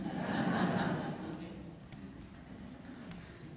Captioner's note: laughter